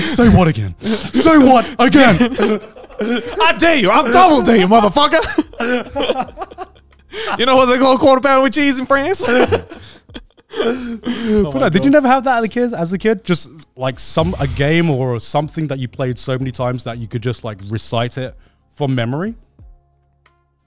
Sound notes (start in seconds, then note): 6.3 laughing; 9.0 all laughing